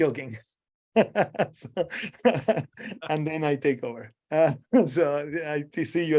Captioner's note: laughing